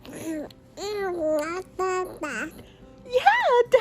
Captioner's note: baby babbling